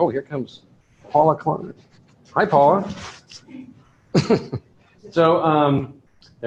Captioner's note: laughter